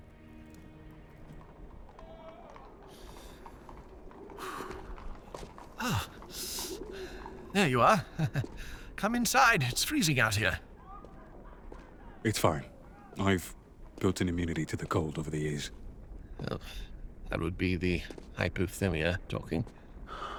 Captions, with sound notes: [Nighttime city sounds] - Ah, there you are. Come inside, it's freezing out here. - It's fine. I've built an immunity to the cold over the years. - Well, that would be the hypothermia talking.